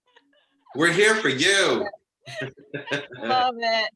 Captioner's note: laughs